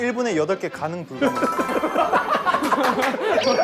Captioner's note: Tertawa terbahak-bahak